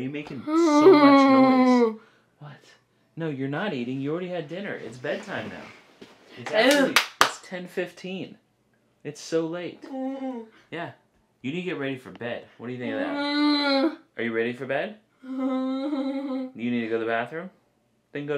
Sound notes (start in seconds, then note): 0.3 vocalizing; 6.4 clapping; 12.8 moaning; 15.2 moaning